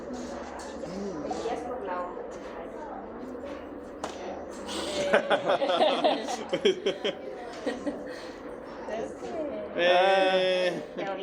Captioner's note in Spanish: risas; resoplido